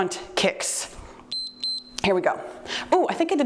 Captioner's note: timer beeps